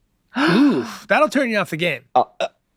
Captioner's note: gasps